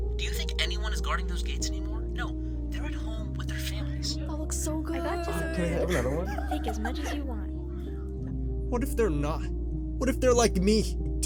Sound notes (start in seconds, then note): 5.0 mixed chatter